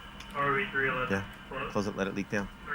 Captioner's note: over comms